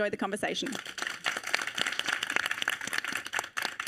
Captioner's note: audience applauding